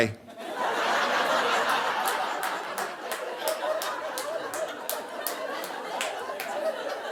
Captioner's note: audience laughing